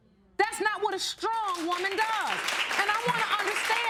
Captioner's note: audience applauding